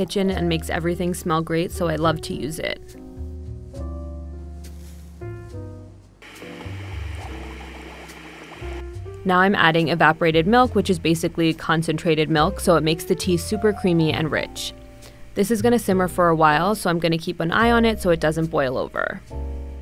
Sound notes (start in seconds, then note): 6.2 chai bubbling